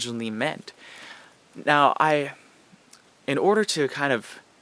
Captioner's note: short pause